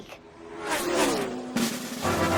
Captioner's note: racing cars buzzing; drum roll; dramatic music